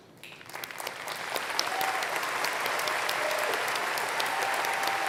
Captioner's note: applause